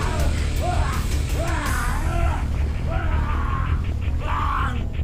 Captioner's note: Gundra screaming